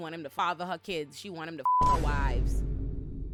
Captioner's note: beep